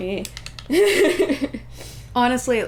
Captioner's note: laughter